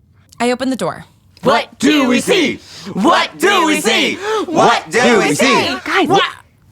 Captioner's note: chanting